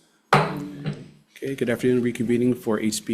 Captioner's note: gavel clanks